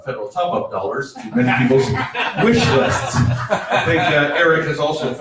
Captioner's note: audience laughs